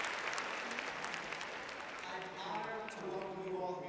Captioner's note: applause; cheering